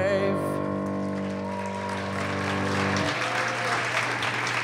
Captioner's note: applause